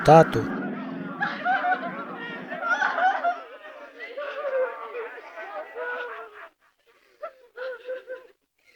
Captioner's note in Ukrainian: плач на фоні